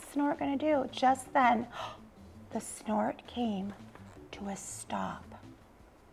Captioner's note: gasping